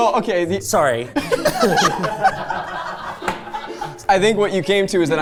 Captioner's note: everyone laughing